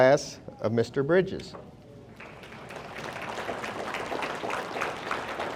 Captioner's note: audience applauding